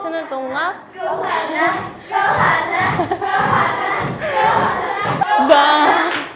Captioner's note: playfully cheering